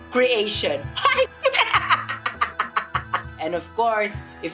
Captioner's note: evil laughter